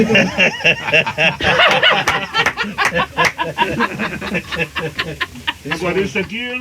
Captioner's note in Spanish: risas